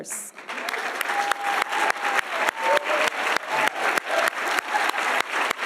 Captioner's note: audience applauding and cheering